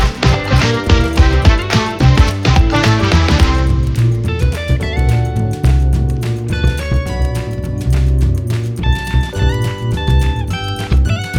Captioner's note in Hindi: तालियाँ